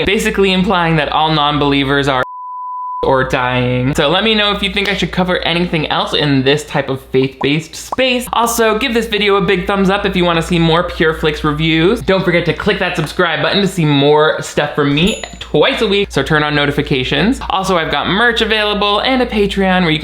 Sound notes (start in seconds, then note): 2.2 beep; 7.8 bubbles popping; 15.0 bell dinging